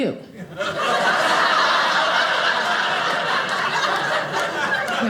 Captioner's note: audience laughing